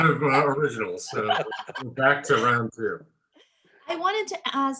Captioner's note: laughter